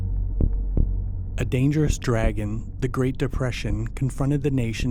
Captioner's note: voiceover